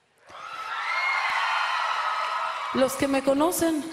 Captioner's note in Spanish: aplausos